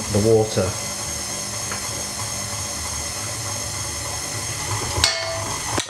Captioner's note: machine chugging some more; clank